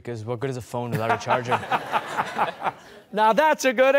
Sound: laughter

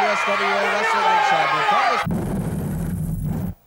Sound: exploding

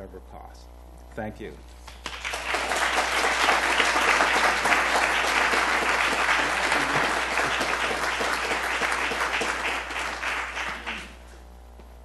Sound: applause

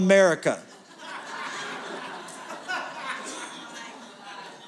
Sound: laughter

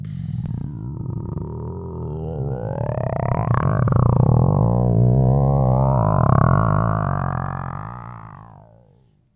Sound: rumbling noise

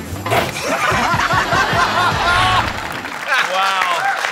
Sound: laughter

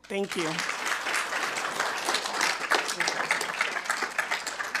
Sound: attendees applauding

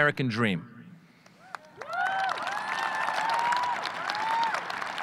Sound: audience cheering

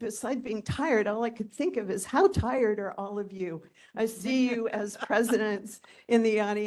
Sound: laughing

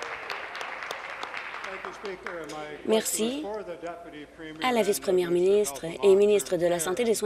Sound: applause

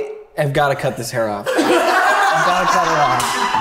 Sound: laughs

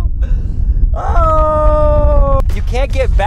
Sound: groaning

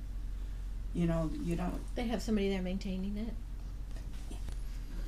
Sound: voiceover

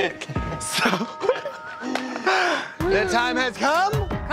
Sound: laughter

